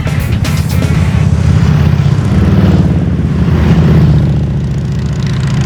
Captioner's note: motorcycle engines revving